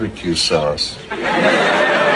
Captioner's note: laughter